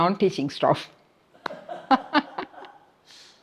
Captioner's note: laughs